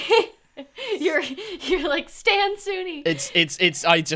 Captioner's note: laughs